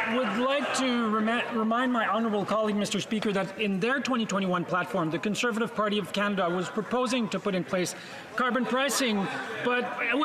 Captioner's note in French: voix de l'interprète